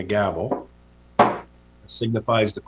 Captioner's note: gavel taps